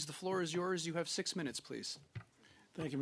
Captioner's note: speaking in French